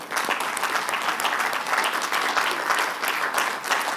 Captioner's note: applause